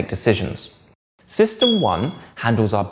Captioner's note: bell dings